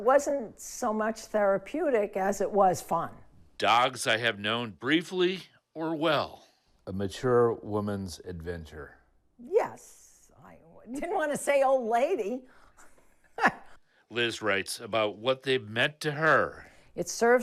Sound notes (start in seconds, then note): 13.3 laughs